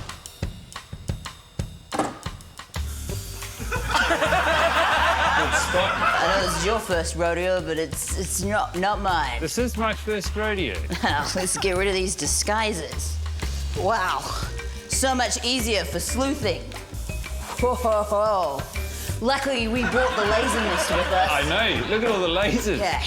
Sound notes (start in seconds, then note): 0.3 suspicious percussive music; 3.0 can hisses; 3.6 laughter; 10.8 laughs; 16.7 can hisses